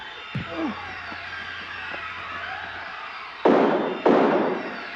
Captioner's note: tense eerie music; yells; thudding; gun bangs